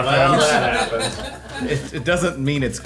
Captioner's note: all laughing